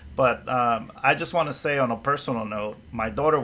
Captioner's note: none